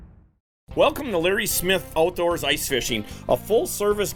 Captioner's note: voiceover